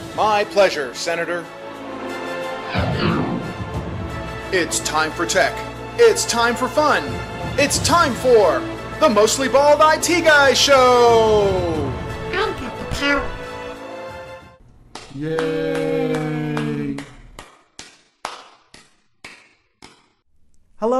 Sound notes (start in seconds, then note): 2.6 woosh; 18.2 applause